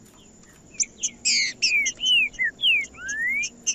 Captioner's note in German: trinca ferro cantando